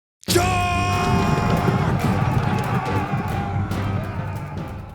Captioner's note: roman soldiers yelling